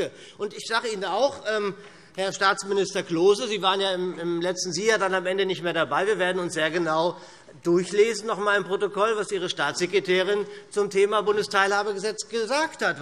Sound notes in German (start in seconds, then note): none